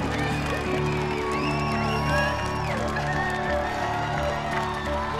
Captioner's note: cheers and applause